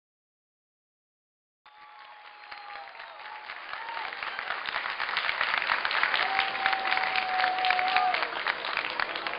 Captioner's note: cheers & Applaud